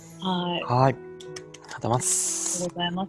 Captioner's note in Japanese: 拍手